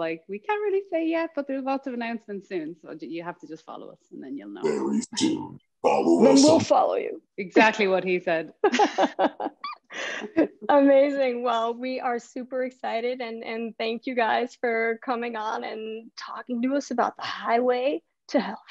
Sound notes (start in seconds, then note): 8.6 laughter